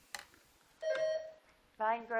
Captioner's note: buzzer dings